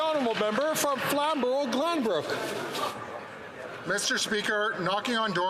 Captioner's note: some Applause